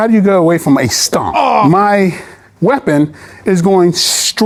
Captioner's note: groans